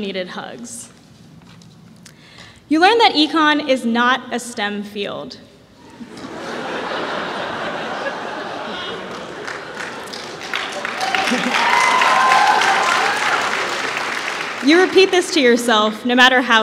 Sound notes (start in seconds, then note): 5.2 applause; 5.8 laughter